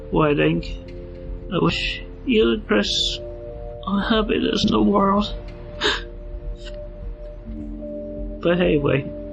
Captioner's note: sob